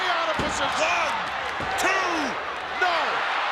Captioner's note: hand pounding